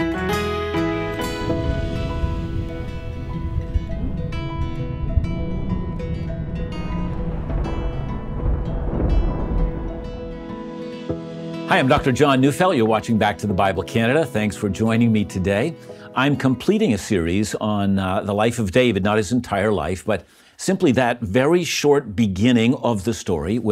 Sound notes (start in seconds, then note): 0.1 uplifting guitar music; 7.6 thunder rumbles